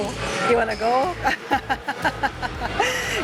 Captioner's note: laughs